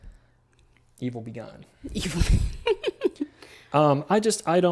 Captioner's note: laughs